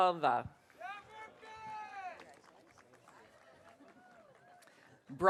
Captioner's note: audience cheering